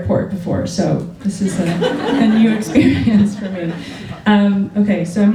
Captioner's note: laughter